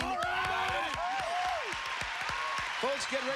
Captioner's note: cheers